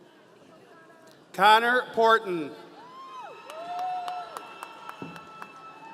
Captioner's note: audience cheering